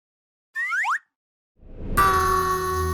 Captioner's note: sliding whistle plays